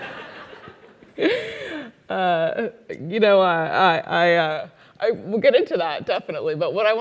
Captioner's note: laugh